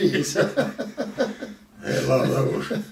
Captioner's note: both laugh